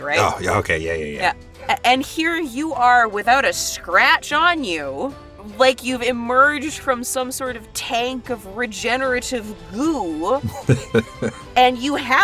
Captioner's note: chuckles; chuckles